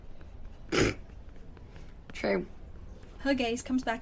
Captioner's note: Marlene snorts